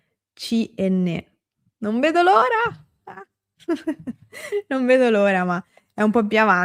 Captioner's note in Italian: risate